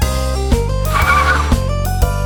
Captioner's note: tires screech